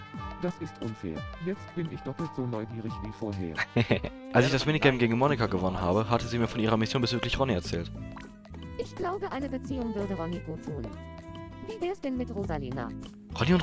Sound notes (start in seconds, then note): 3.5 giggle